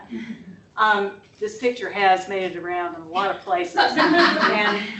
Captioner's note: laughter